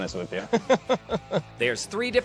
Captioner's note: laughs